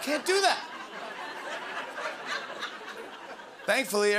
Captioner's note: laughter